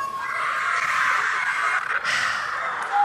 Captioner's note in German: Jubel